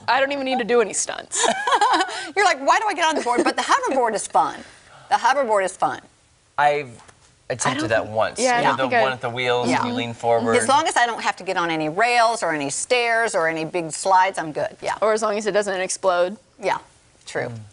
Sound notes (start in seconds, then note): 3.1 laughter